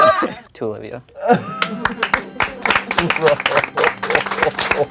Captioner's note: crowd applauding